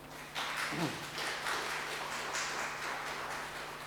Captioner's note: audience applauds